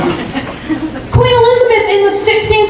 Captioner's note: audience laughing